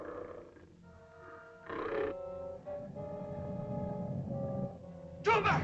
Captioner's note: lizard growls; ominous music; lizard grumbles